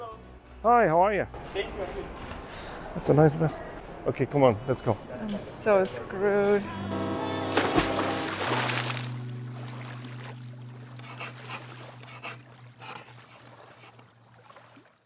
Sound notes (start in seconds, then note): 6.5 boat horn blows; 7.4 water splashes; 10.9 text scratches